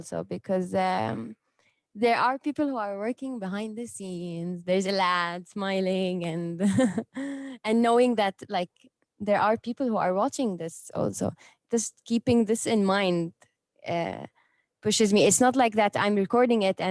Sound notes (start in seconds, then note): 6.6 chuckles